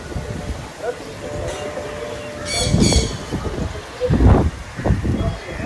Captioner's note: birds chirping